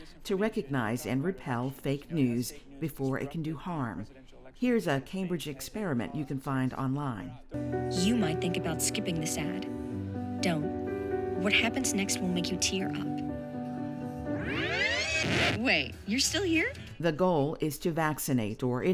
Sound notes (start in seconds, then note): 13.3 somber music; 14.4 video whirring